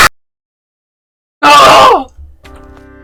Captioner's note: 𝗰𝗿𝘆𝗶𝗻𝗴 𝗻𝗼𝗶𝘀𝗲𝘀